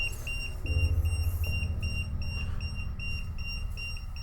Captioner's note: beeping